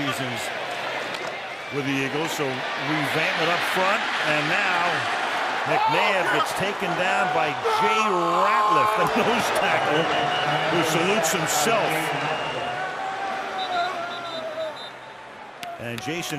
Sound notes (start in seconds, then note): 7.6 screams; 13.5 whistle